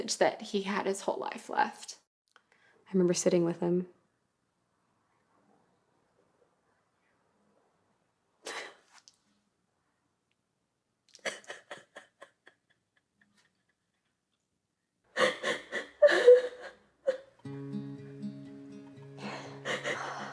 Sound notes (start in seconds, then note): 12.6 sobbing